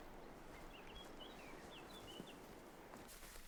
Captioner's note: bird chirps